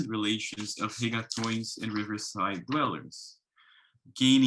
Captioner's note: speaks foreign language